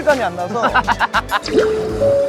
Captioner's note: laughing